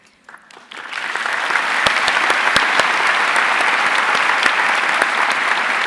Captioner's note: audience cheering and applauding